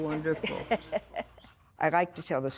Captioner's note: laughing